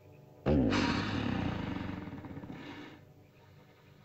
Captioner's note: ominous music; dinosaur snorts